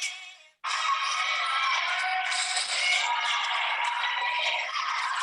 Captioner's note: people screaming